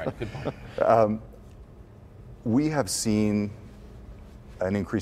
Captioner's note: chuckles